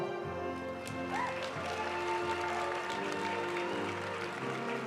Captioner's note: audience cheering and applauding; graduation music